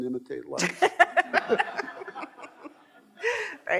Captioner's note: all laughing